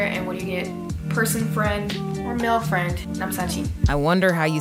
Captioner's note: korean